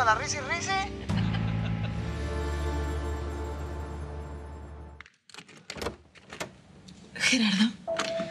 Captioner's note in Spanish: Risas